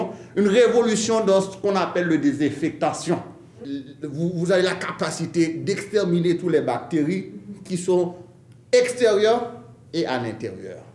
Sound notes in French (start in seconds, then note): none